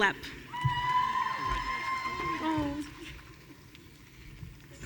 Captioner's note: audience cheering